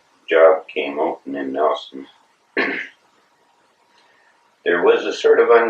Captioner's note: coughs